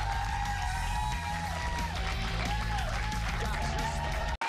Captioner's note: cheers and applause